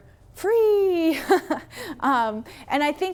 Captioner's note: chuckles